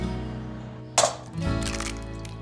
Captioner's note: crack